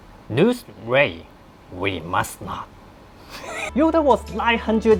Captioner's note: laugh